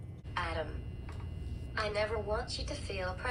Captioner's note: electronic voice